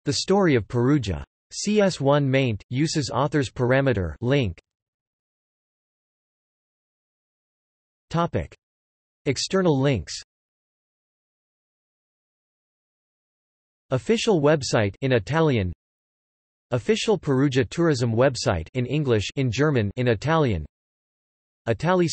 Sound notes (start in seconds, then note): 15.3 in Italian; 20.3 in German; 21.1 in Italian